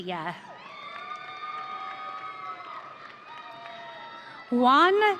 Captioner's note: audience cheering